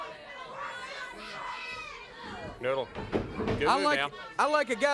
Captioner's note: crowd chatter